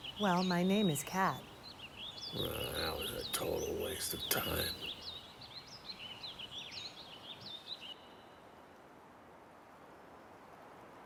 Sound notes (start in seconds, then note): 6.1 birds chirp